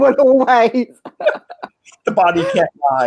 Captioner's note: laughing